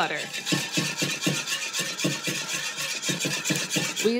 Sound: whisk scrapes

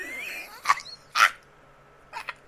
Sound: more wheeze; old hag noises

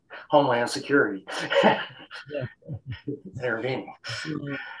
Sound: laughing

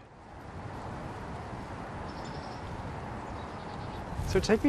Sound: bird calling

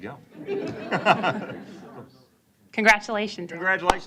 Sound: laughter

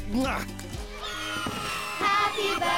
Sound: cheering

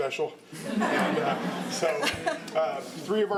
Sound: laughter

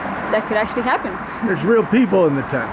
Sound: chuckling

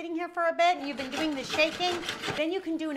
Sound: pan scrapping

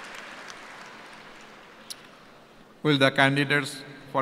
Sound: cheers and applause

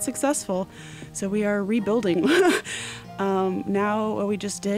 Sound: laughs

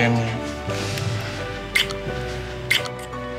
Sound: kissing sounds

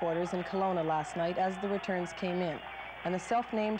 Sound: cheers

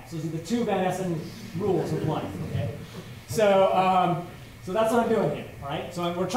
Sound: laughter

